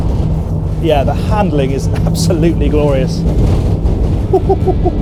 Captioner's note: excited chuckle